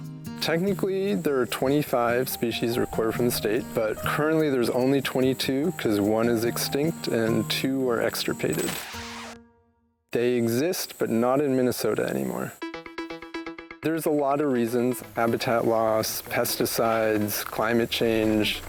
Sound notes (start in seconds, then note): 8.0 screen buzzes; 12.6 bright music